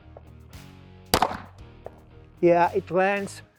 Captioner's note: gun pops